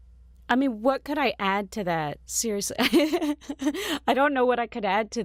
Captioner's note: laughs